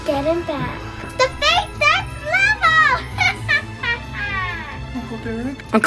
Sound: laughter

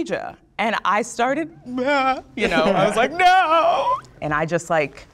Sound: mimics sobbing

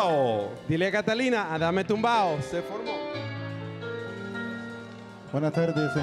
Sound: MC speaking in Spanish; speaking Spanish

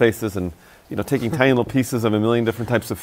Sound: laughs

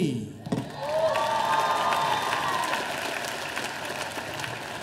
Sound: audience applauding

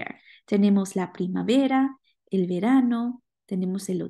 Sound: speaking spanish

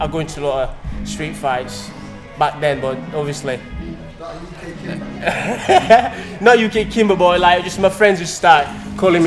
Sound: laugh

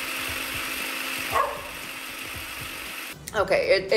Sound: food processor buzzing; Gus barking

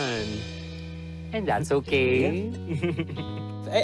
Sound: chuckles

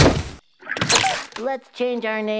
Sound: booming thud; playful squeaking

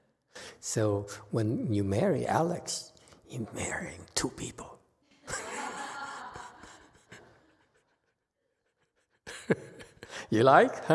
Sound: laughs, audience laughs

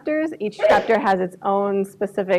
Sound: woman sneezes

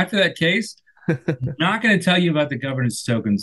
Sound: laughs

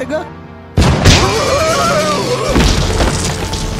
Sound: Spring lauch, Impact, Tigger screaming

